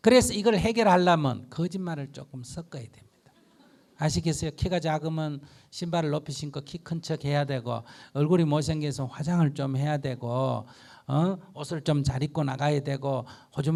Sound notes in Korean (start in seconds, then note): 3.3 청중 웃음